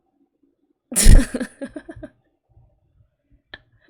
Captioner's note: laughs